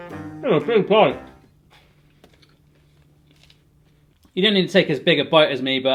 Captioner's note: with mouth full